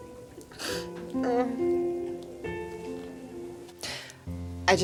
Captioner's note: Sandra crying